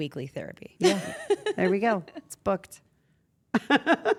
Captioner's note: laugh; laugh